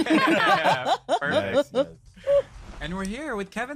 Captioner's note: laughter